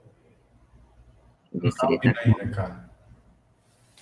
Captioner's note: multiple voices